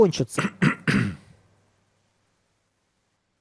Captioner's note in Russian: фыркает; кашель; откашливается